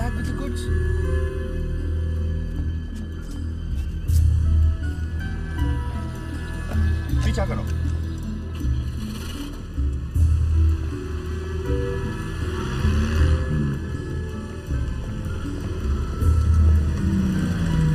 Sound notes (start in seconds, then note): 0.3 suspenseful music; 6.8 speaking foreign language; 8.2 suspenseful music